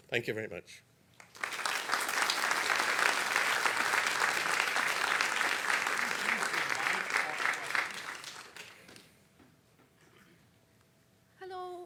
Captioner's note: applause